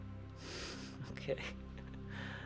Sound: laughs

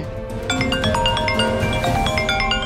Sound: mobile phone ringing

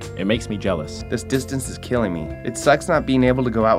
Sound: voiceover

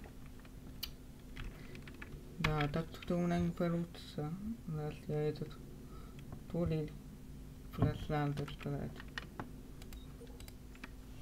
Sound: sighs

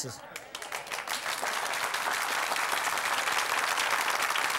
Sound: audience clapping

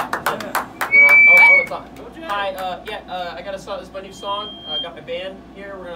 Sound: Desert rats cheering; awkward stammering

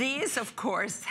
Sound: laughter

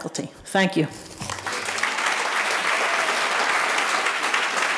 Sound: audience applauding

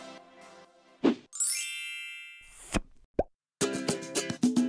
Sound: chiming; upbeat music

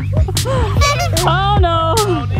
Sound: laughing; clown horn honking

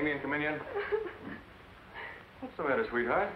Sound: sobs

